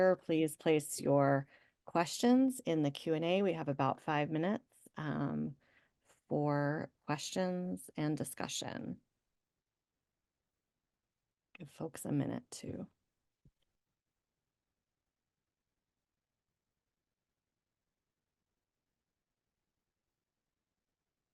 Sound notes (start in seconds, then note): 12.4 pause